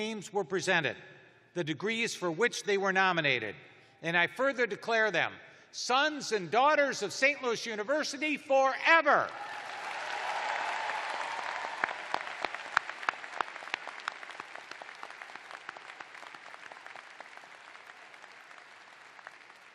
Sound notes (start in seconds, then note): 9.2 cheers and applause